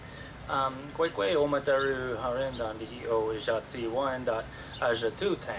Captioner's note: speaking in Wyandotte language